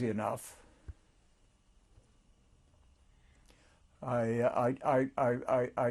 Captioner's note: pauses for 3 seconds